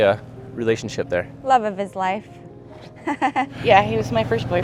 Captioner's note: chuckles